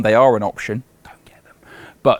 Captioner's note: whispers